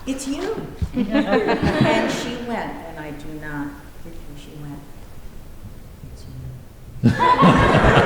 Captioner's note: laughter